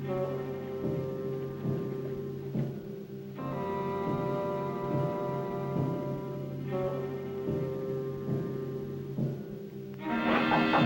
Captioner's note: knocks